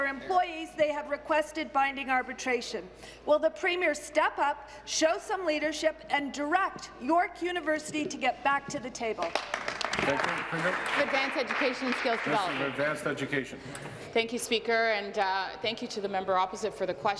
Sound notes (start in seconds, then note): 12.3 applause